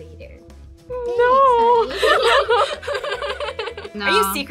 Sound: laughs

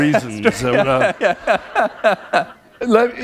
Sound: laughter

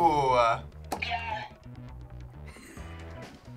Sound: buzzer

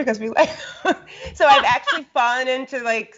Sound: both laugh

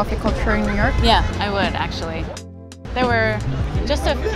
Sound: car horn honking faintly

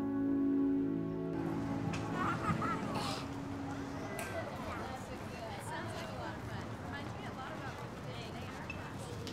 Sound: school yard ambience

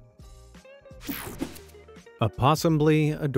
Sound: graphics whooshing

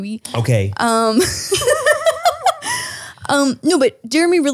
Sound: women laughing

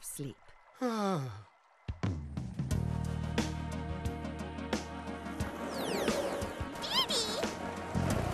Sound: sighing

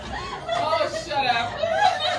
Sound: laughter

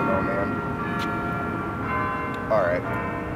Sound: church bells ringing

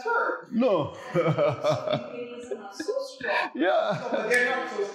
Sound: laughs

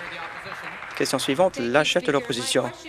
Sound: applause

